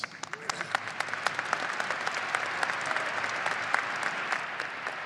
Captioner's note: audience applauding